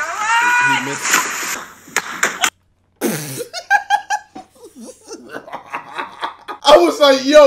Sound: laughs

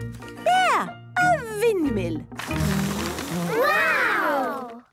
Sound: blows

